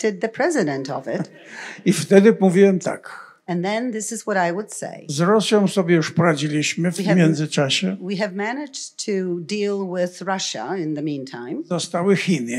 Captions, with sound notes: the president of it. [laughter] [foreign language] 0:41:44.7 S1: And then this is what I would say. [foreign language] 0:41:48.5 S1: We have managed to deal with Russia in the meantime. [foreign language]